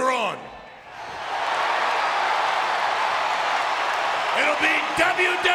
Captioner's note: audience cheering